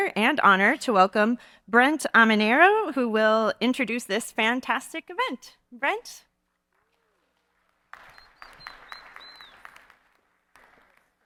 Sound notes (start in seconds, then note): 6.6 audience clapping